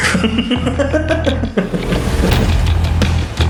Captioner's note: laughing; epic rock music